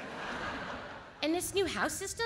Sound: audience laughs

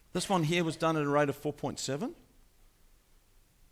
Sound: none

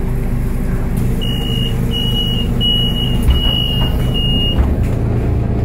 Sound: door closing buzzer

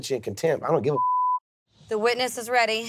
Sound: beep

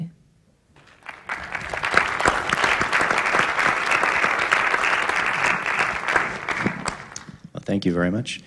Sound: applause

